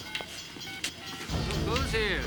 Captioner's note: phone dialing